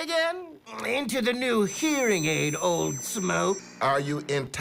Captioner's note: high-pitched squealing